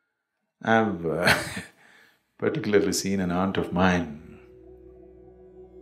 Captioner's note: laughs